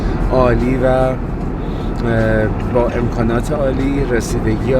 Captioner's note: speaking Farsi